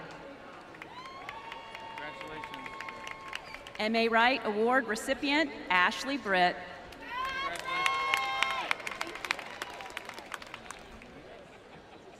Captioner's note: cheering and applause